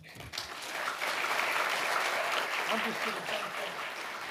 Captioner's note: audience applauding